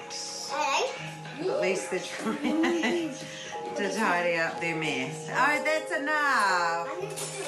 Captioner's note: chuckles